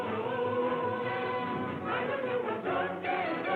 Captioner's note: none